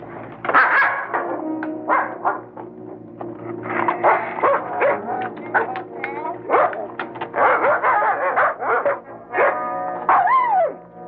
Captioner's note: barking